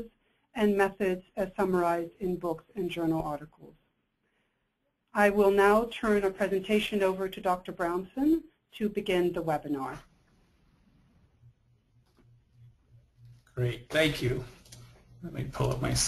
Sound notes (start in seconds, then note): 13.7 voiceover